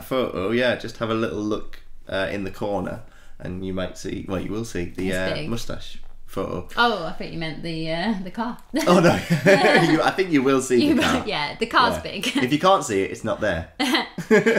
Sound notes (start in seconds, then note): 8.8 laughing